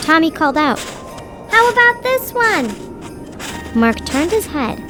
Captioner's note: footsteps plodding